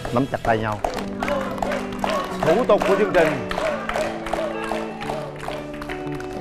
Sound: audience cheering

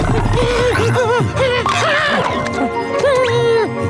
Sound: whimpering

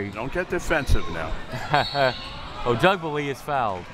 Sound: laughs

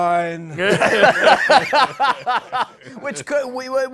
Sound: laughter

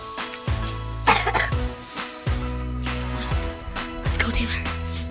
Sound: upbeat Christmas music; coughing

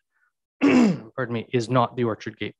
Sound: clears throat

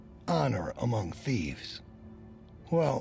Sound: none

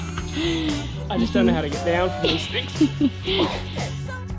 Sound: laughing in background

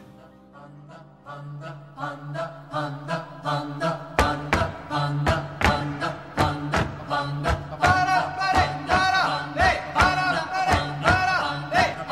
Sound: chanting

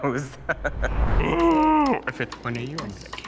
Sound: laughing; grunting

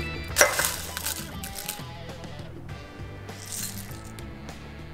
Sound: Corn Flakes rustling

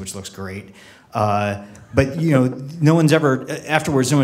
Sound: laughing

